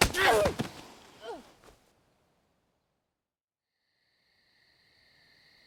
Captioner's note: face slaps; Mackenzie gasps; Mackenzie grunts; crickets chirping